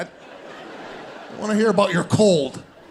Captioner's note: audience laughing